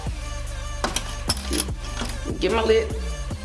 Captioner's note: upbeat music; tools clanking